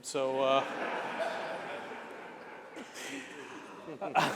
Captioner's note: laughter